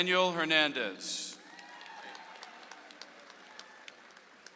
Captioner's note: audience applauds